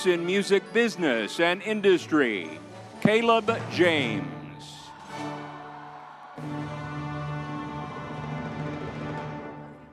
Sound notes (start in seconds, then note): 4.2 crowd cheering